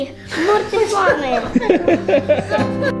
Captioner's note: laughing